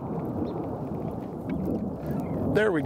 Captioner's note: jet plane in the background